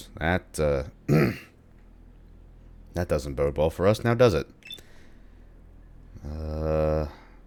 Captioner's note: clears throat